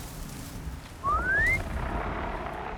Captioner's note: whistle